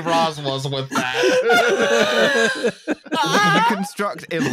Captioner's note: laughter